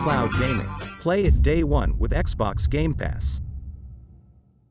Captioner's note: dramatic sound